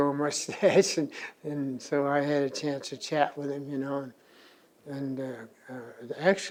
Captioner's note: laughs